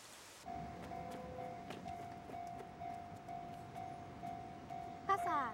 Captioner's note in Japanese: 踏切の警報音